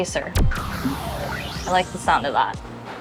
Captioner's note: lasers zapping